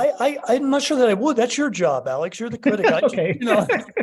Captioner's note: laughing